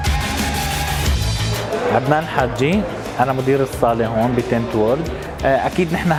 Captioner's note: rock music continues; speaking Arabic